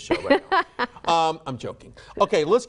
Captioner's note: laughing